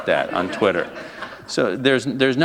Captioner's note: laughter